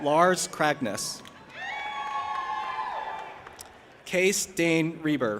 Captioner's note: audience applauding and cheering